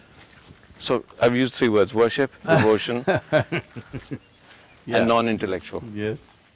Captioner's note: Sadhguru Laughs